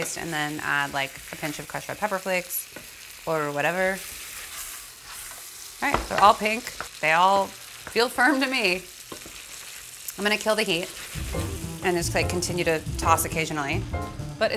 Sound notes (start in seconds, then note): 4.1 sizzling; 9.0 sizzling